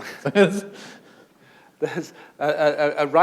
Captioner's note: chuckle